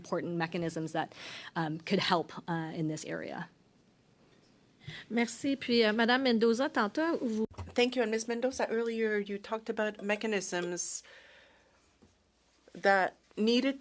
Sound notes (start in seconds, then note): 9.5 speaking French